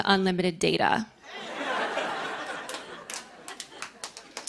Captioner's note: laughter